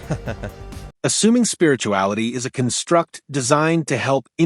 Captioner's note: AI Laughs